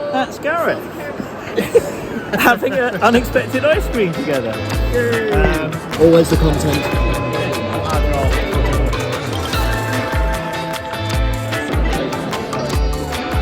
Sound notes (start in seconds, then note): 1.5 laughs; 7.8 upbeat music